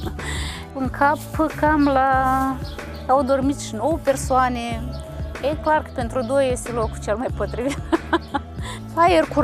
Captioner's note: laughing; laughing